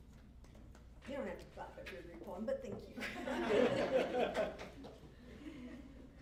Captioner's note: laughter